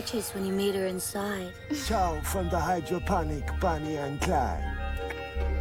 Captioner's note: clicks tongue